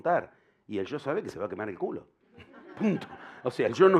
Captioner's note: laughter